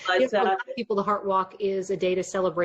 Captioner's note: murmurs